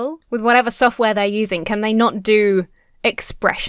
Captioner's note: none